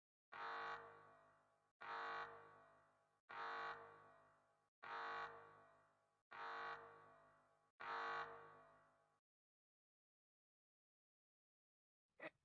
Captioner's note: alarm